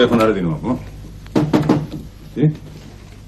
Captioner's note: knocking at the door